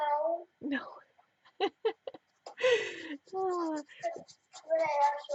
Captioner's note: laughing